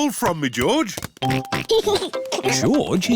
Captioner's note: oinks and giggles